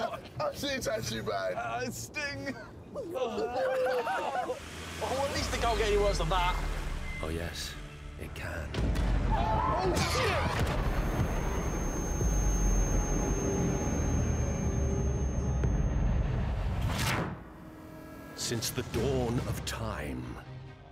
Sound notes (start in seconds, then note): 2.5 groans and laughter